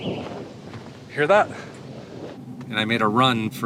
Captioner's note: thunder rumbles